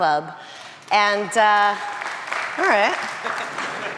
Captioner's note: audience applauding